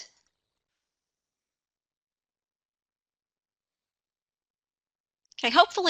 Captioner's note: no audio